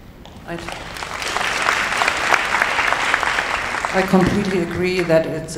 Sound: applauding

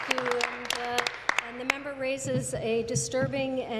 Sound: applause

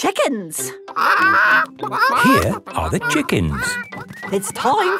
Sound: clucking

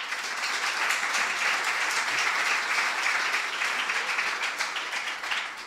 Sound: applause

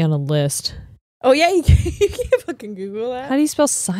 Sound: giggles

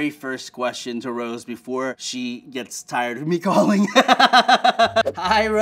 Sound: laughs

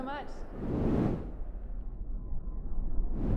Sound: whooshing

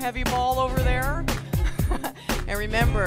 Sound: chuckling

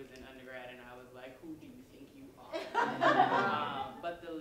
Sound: laughter

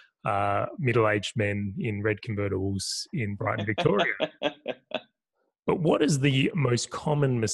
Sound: laugh

